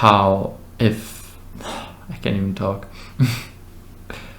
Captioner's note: sigh